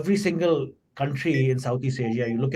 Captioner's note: alert pings